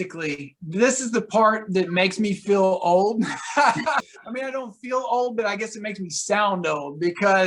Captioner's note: laughter